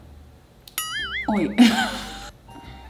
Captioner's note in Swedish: skrattar